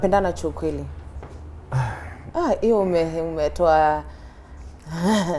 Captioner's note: sighs